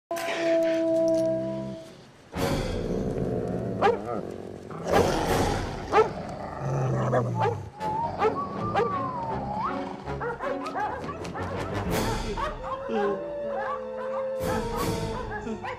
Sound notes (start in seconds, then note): 2.1 dogs growling and barking; 7.7 Happy Chapman whistling nervously; 12.4 howling in distance; 15.1 whimpering